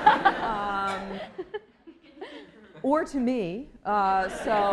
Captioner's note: laughter